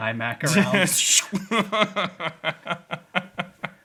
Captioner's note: laughing